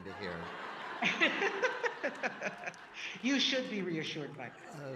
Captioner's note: audience laughing; Justice Sonia laughing